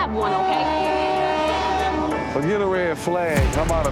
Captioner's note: train whistle blows